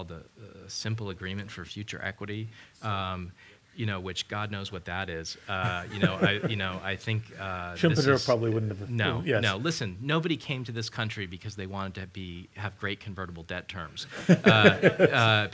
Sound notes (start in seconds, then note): 5.6 laughter